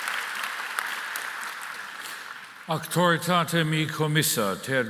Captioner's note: applause